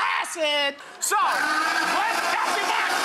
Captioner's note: blender roaring